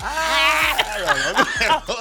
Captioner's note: laughing